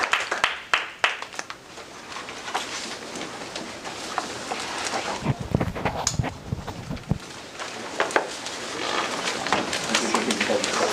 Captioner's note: crowd murmurs